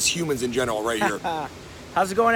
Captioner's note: laughs